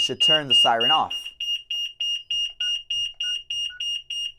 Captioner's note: beeps